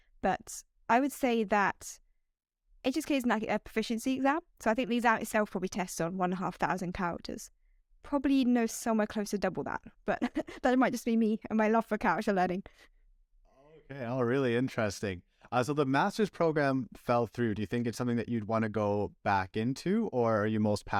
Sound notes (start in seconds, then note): 10.1 laughter